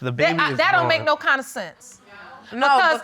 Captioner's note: stammers